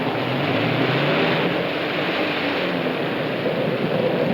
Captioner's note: engine revs